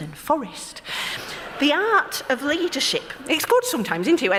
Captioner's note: laughter